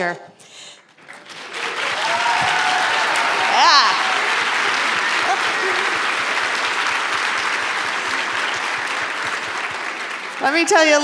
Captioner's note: applause